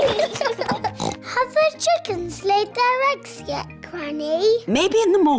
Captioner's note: both giggling; oinks